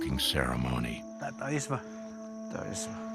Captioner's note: chatter in Hopi